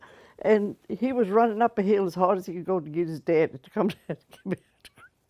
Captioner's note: laughter